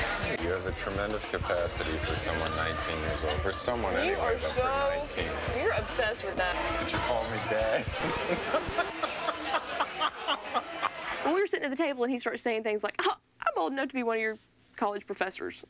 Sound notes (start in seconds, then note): 7.9 record scratch; 9.7 laughing